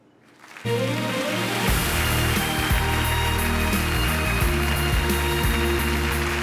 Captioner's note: audience applauding; upbeat music